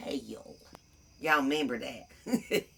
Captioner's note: laughs